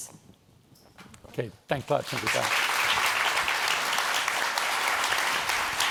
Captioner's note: applause